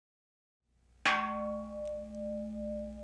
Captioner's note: gong rings